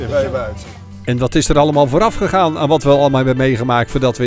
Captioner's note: voiceover